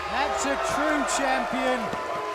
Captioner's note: cheers and applause